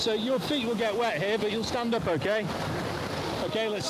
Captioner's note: water splashing